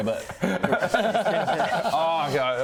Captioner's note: deeply concerned giggles